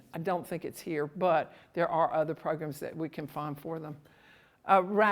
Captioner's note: none